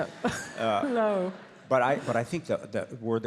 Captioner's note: audience laughs